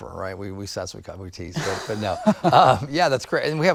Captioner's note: both laughs